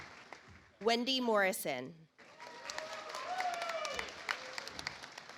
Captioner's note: audience applauds